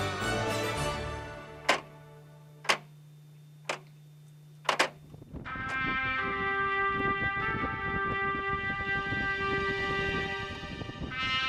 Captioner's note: clock ticks